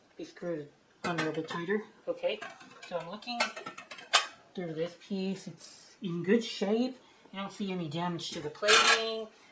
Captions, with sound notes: screwed on a little bit tighter. Okay. so I'm looking... (sound of lid closing onto rim) through this piece... it's in good shape. I don't see any damage (SCRAPE) to the plating.